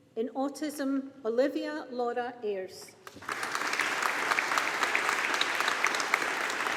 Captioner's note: audience applauding